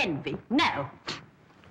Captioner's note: scoffs